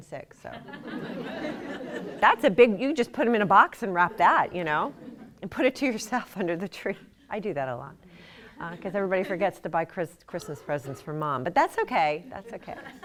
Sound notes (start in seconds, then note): 4.7 laughter